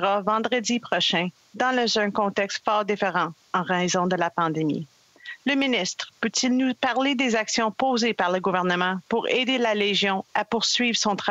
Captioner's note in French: voix de l'interprète